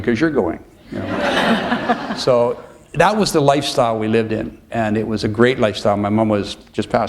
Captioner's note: laughter